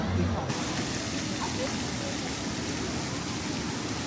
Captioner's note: water running